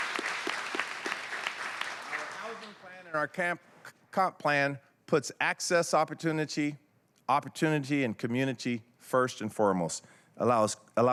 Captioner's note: applause